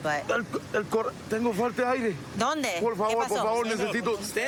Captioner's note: speaking spanish